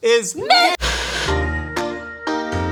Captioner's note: Static; upbeat Music